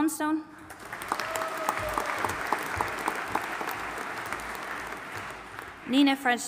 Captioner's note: audience applauding and cheering